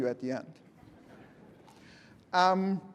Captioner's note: laughter